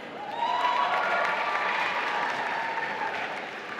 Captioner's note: applause